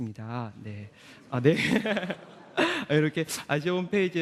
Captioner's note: laughter